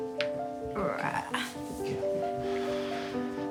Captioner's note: grunts gently